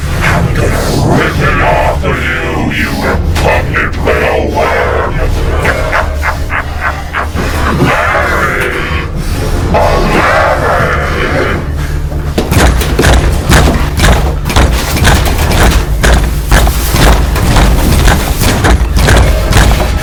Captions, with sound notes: I'm gonna rip it off of you, you repugnant little worm. (Henrietta laughing) Larry. Oh Larry. (Henrietta pounding on door)